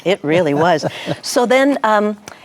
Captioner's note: laughs